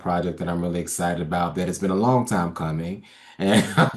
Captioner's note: laughs